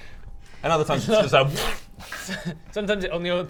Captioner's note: pft